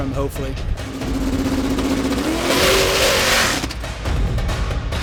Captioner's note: car engine revving; upbeat music